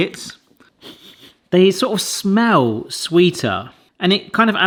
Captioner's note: sniffing